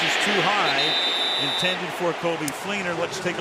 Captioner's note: whistle blows